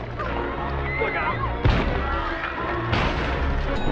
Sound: loud thud

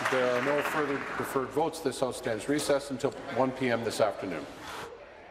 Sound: applause

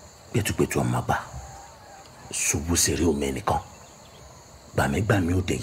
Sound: speaking in foreign language

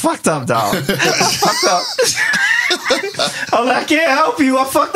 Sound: laughing

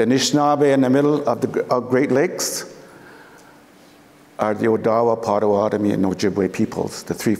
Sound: foreign speaking

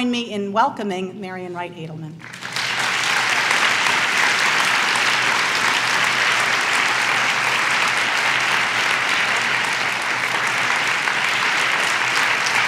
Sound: clapping

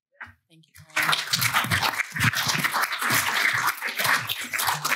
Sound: applause

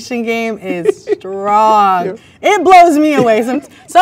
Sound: man laughs

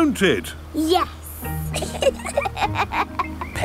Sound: both laughing

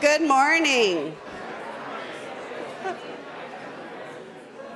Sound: audience chatters

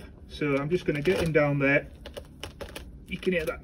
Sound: Tulbaghias crunching

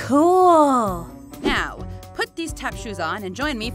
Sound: air whooshes

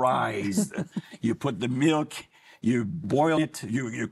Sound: laughing

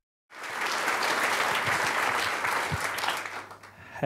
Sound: applause

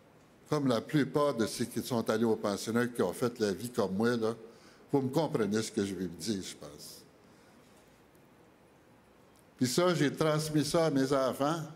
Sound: speaking French

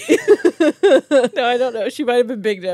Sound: laugh

